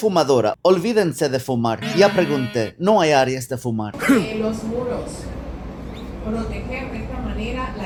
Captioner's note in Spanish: carraspeo